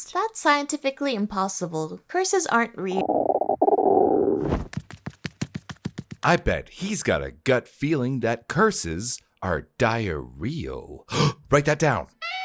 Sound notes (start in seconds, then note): 2.9 stomach making funny noises